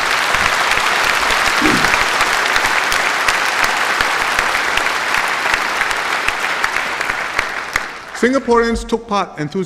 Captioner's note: applause